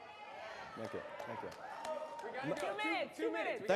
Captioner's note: audience cheers